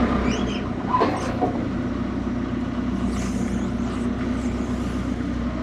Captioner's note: forklift engine rumbling